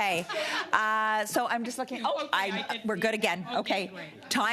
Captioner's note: laughter